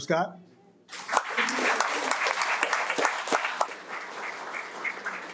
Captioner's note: audience applauding